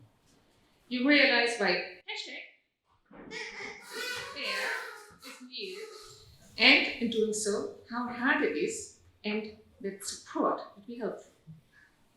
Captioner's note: audience toots